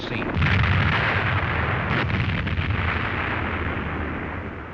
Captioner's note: loud explosions